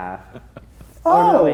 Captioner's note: laughing